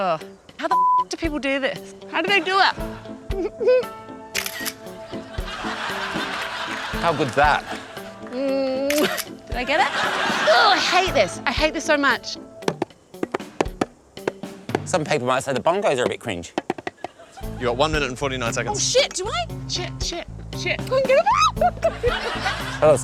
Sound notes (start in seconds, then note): 4.8 snap!; 5.1 laughter; 9.5 snap!; 21.9 squeals